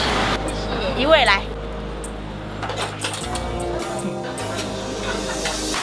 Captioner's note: speaking in Mandarin